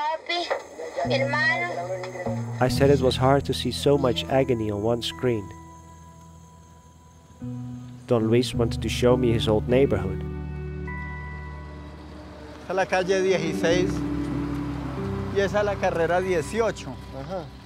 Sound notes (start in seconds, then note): 12.6 speaking in foreign language